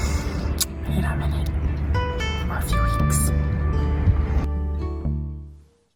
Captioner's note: whispers